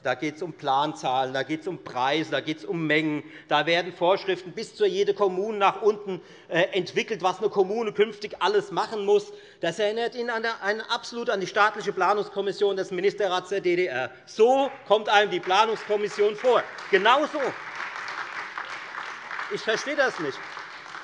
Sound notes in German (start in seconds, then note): 17.7 Beifall Freie Demokraten und vereinzelt AfD